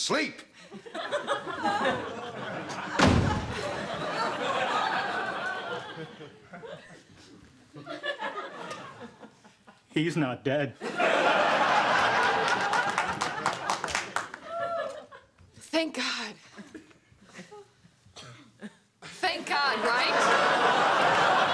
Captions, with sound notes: ( sheepishly ) HE'S NOT DEAD. THANK GOD. ( sighs ) THANK GOD, RIGHT?!